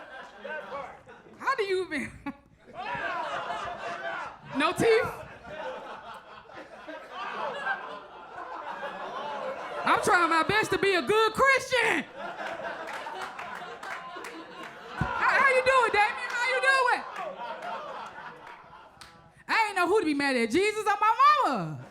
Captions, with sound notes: How do you mean? No teeth? (audience laughs) I'm trying my best to be a good Christian. (audience applauds) How you do it, Damian, how you do it? I ain't know who to be mad at Jesus or my mama.